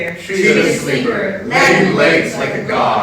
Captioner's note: in Unison